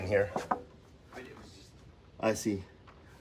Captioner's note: knocks on door